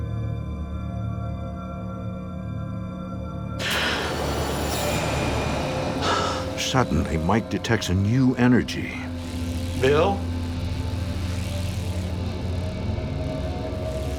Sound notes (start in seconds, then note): 3.6 gasps